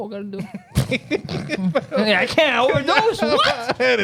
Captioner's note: laughing